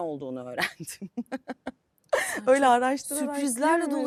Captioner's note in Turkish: kahkaha